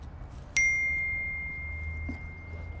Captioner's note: ding